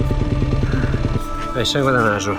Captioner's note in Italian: gemito